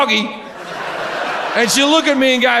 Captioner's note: audience laughs